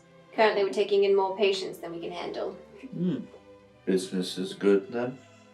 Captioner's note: none